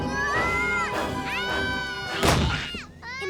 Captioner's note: Max screaming; dramatic music; door crashes